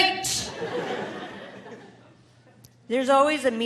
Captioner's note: audience laughing